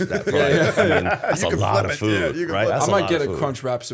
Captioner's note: laughter